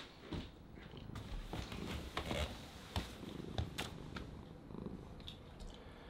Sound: purring

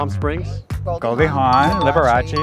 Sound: bell ding

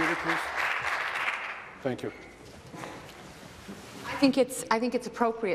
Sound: applause

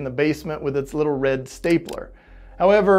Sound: stapler clicks

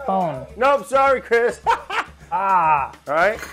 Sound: laughs

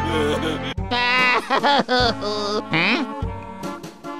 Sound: sobbing

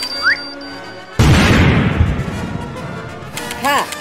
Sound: boom!

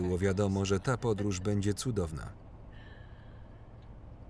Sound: laughs

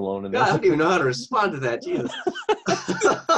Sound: laughing

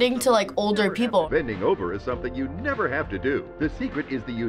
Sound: voice-over

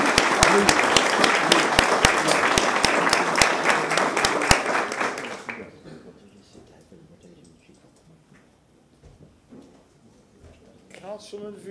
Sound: applause

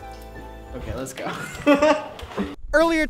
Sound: laughs

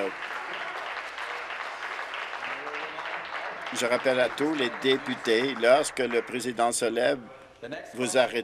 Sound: some applause

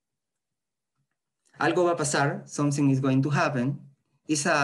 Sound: spanish

